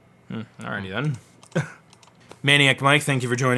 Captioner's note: laughs